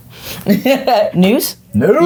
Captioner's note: laughing